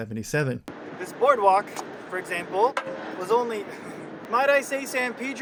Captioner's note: foot hits metal railing